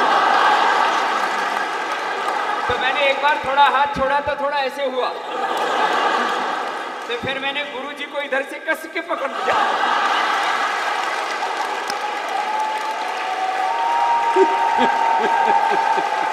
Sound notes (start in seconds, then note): 0.0 laughter/Applause; 13.2 laughter